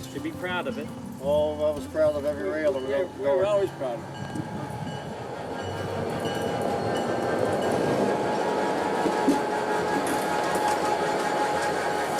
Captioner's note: train bell